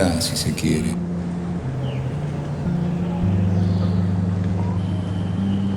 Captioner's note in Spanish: canto de pájaros